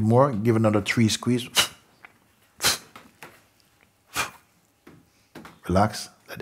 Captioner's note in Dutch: toont snelle, korte uitademing